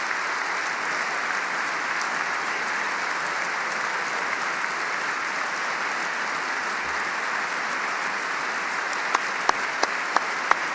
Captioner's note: applause